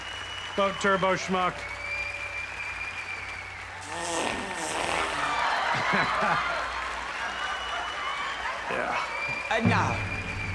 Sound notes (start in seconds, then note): 1.7 audience cheers, applauds; 3.8 farts; 4.1 audience laughs